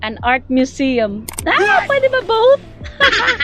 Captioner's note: screams